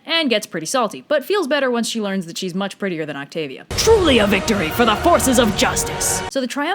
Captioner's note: Epic voice